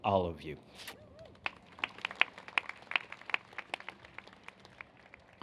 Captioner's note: applause